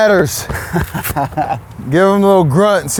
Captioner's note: laughs